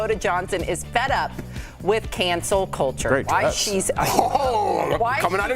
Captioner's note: laughter